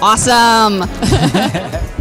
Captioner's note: both laugh